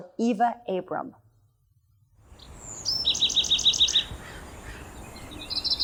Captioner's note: birdsong